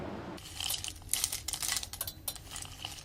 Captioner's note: crackling